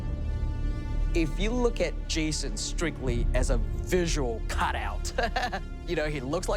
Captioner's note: laughs